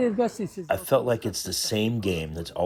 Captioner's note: through translator